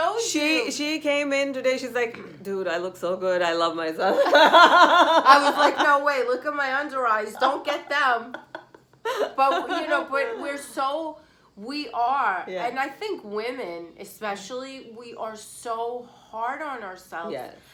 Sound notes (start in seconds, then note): 4.2 laughs